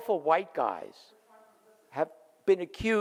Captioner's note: person speaking off mic